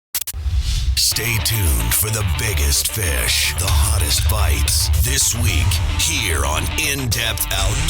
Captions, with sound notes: - [Voiceover] Stay tuned for the biggest fish, the hottest bites, this week, here on In Depth Outdoors.